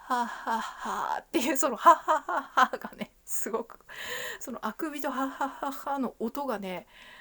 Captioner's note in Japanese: 笑い; 息をのむ音; 笑い